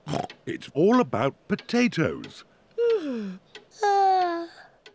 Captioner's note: snorts; yawns